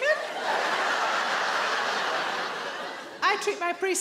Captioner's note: audience laughing